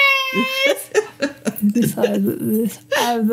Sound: laughter

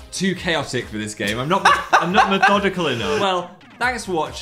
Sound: laughs

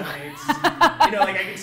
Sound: laughs

